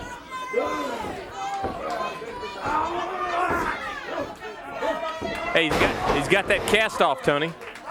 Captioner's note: crowd chatter